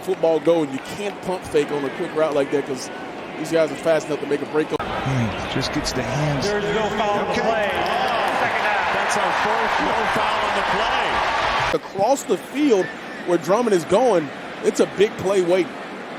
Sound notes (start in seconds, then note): 10.4 crowd Noise